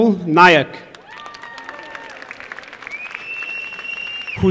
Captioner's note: applause